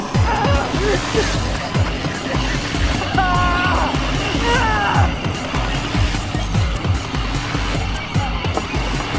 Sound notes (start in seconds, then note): 0.0 agonized groans; 3.1 screams of pain